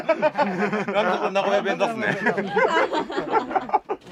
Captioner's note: laughs